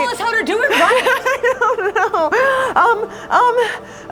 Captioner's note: crying